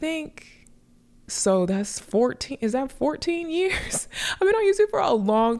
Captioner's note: chuckles